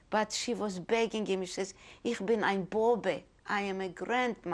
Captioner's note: speaking german